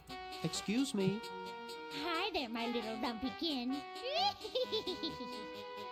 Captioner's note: cackle